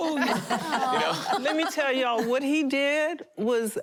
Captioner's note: laughing